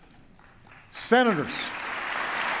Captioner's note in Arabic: تصفيق